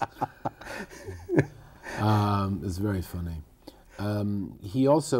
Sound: laughter

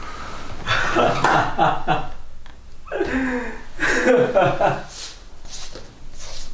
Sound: Aditya laughing

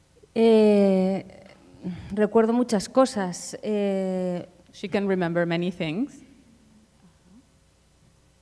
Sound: speaking in Spanish

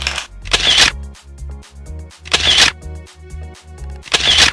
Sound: camera shutter

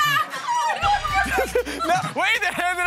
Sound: laughing

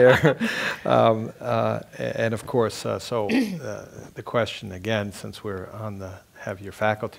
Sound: laugh

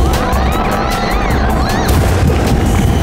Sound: screaming

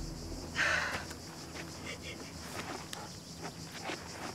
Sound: grunts; sobbing

